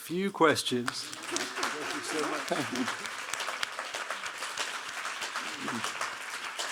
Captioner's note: audience applauding